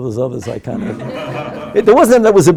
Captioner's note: group laughing